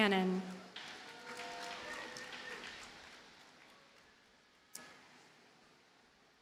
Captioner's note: audience cheers and applauds